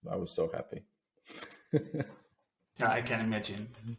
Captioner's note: chuckles softly